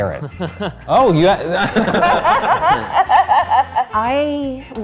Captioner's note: laughing